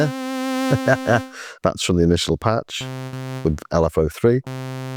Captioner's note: laughs